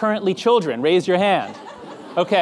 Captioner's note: audience laughing